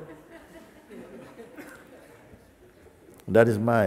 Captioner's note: Lachen